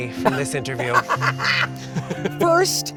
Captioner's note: laughing